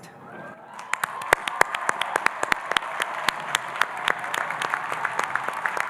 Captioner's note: audience cheering and applauding